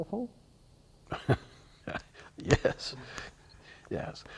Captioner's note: chuckling